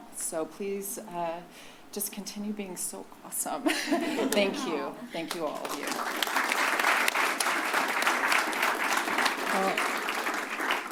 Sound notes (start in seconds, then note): 5.2 applause